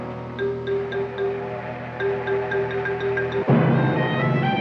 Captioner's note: train whistle shrilling